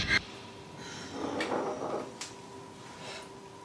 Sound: woman sighs

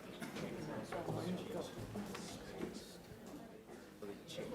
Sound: audience chatter

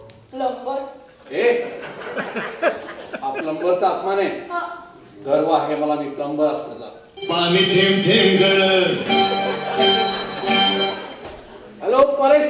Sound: phone rings

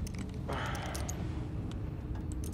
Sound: soft groan

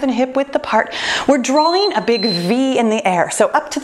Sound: timer beeping

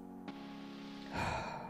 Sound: sigh

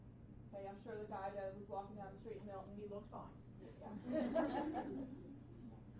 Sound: laughing

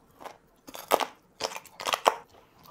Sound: cracking sounds

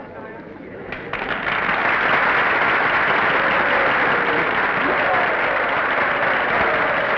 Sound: applause; cheers

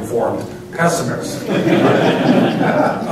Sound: laughter

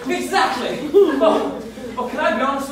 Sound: audience laughing

